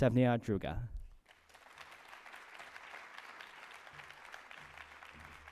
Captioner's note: applause